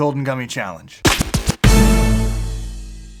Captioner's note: sound effect